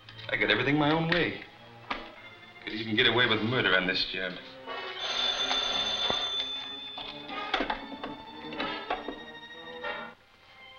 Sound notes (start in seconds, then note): 4.8 phone ringing